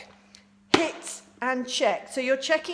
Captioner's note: smacks